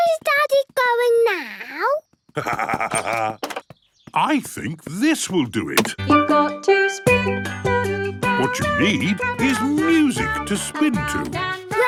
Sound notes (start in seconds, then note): 2.3 laughs; 6.6 radio